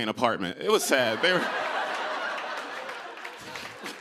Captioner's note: cheers and applause